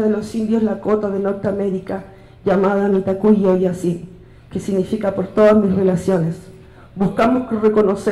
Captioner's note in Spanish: habla en lengua indígena